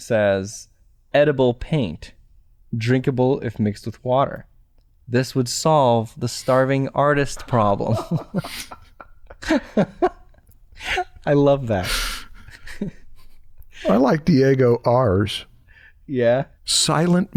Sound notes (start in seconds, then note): 7.2 chuckles